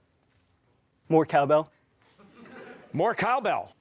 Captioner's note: laughter